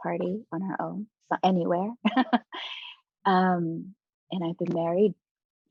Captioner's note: chuckling